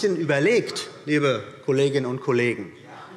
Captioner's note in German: Zurufe DIE LINKE